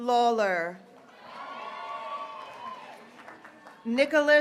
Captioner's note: graduates cheering